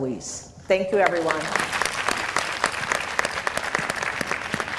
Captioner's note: applause